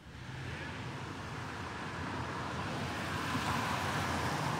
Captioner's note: traffic humming